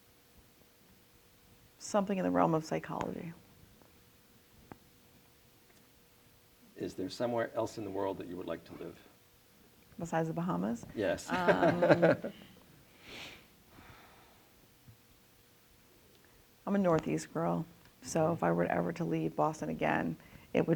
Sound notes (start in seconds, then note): 11.0 laughs